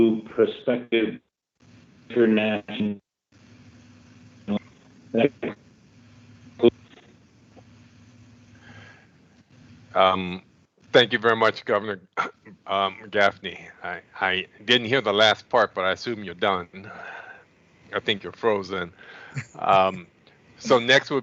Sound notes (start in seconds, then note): 1.6 audio breaks up; 6.8 audio lost